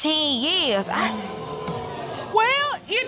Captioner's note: audience groaning